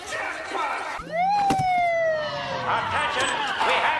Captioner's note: police Arrives With Sirens Going Off